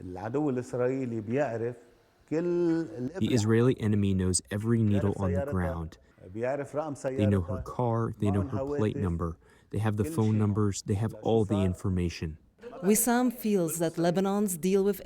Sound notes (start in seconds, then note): 3.8 through translator